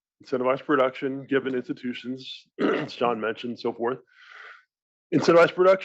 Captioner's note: cough